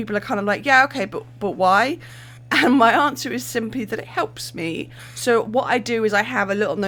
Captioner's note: laughing